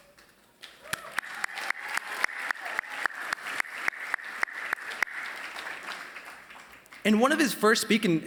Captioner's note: applause